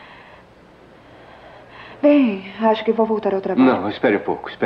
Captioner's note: sighs